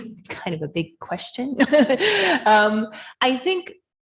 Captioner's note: laughing